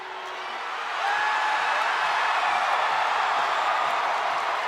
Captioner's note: audience cheering